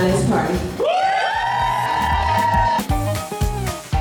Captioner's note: guests cheering and whooping; upbeat jazzy music